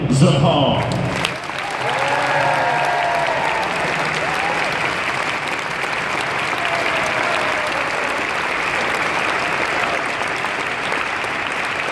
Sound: cheers

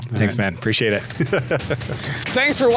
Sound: laughter

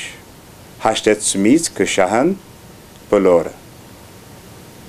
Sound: armenian

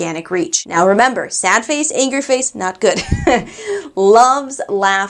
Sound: chuckling

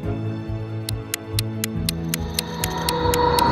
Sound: clock ticking; dramatic music

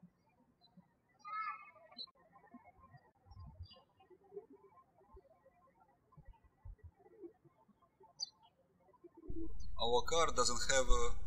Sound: birds chirping

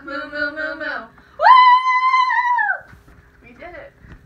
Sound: endless cheering

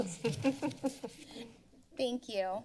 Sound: members giggling

